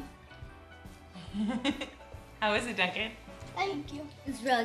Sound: laughing

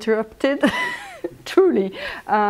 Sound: laughs

